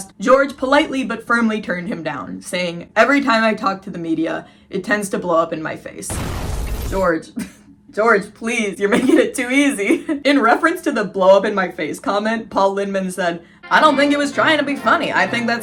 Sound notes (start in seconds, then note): 6.1 explosion sound effect; 7.6 laughing; 13.6 vintage music